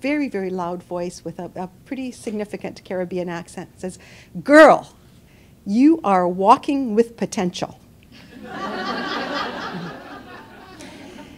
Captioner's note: laughter